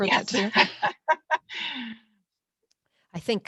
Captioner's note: ladies laughing